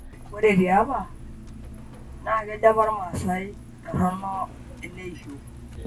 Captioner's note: speaking in Maasai